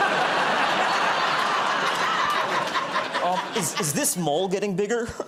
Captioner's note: laughter